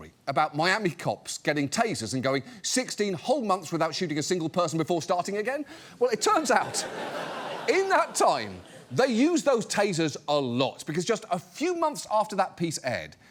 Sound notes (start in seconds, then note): 6.2 audience laughs